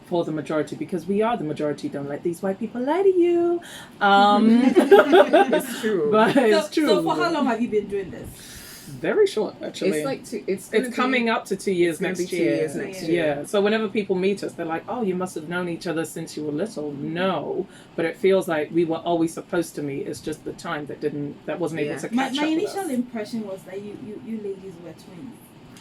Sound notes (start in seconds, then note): 4.4 laughs